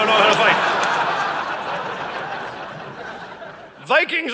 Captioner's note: audience laughing